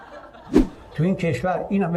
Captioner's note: laughter